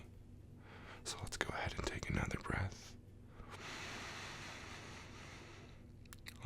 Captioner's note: inhale deeply